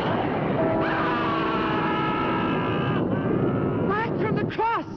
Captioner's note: witch screaming